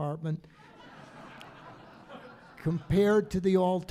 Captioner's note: audience laughing